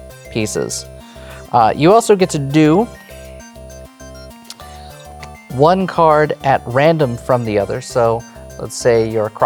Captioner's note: card slaps